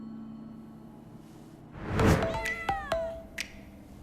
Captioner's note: meowing